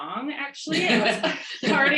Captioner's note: chuckles